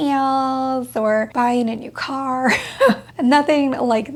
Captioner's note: chuckles